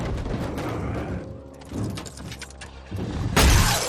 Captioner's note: keys jingle; glass shatters